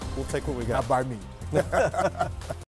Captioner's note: laughing